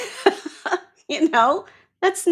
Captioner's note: laughs